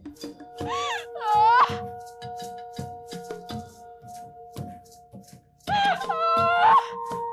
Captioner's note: hysterical wailing